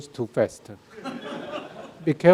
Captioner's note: audience laughing